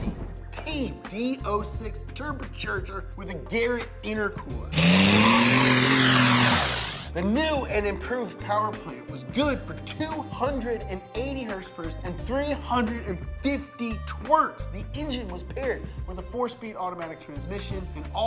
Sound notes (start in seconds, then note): 4.7 engine revving